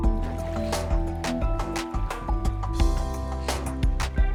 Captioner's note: water splashes